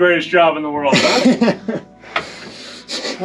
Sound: guy chuckles

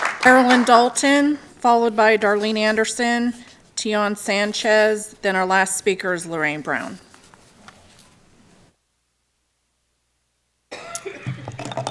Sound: applause

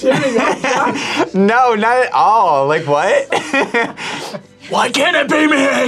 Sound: laughs

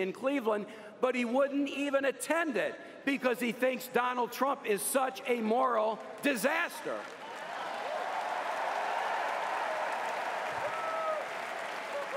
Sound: cheers & applause

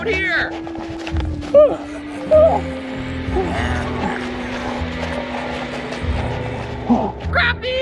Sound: evil Clown Laughter

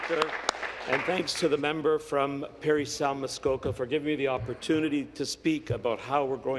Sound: applause

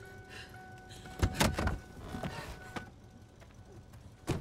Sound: indicator beeping

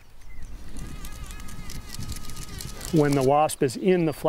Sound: wasp buzzing

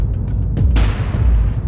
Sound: gunshot

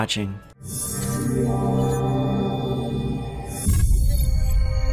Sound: futuristic sounds

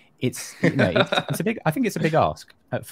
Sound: laughs

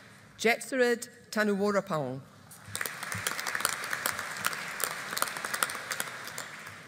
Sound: audience applauding

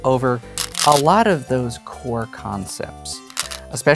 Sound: stones rattling

